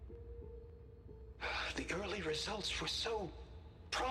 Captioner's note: sigh